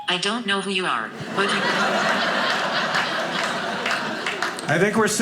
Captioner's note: audience laughing